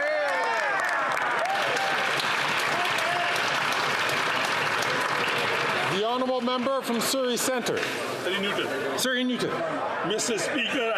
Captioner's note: some Applause